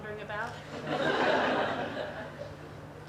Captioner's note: audience laughter